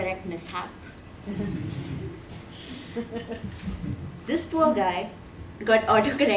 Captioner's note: laugh